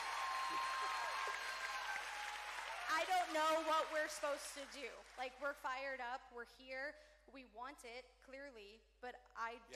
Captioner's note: cheering